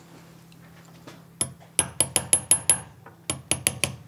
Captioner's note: quiet, fast hammering